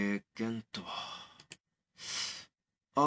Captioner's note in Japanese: マウスのクリック音：カチ